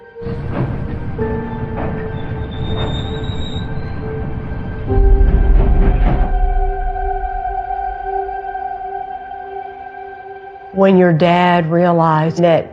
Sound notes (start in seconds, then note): 0.2 somber music playing; 4.0 train screeching